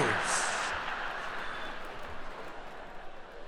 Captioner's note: laughing